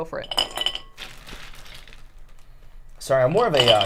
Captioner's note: ice clinking